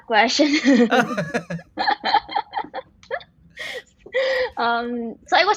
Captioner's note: laughs